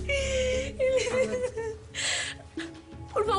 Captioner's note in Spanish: Sollozos